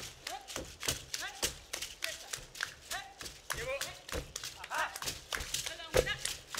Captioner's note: hands clapping and beads rattling